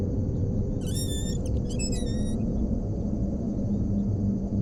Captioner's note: door creaking